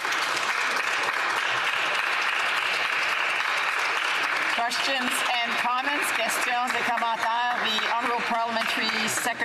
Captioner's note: applause